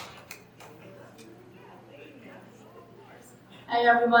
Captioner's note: attendees chattering